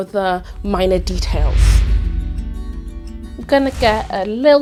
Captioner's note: gentle music; air whooshing